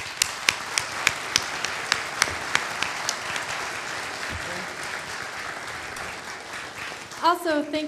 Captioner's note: applause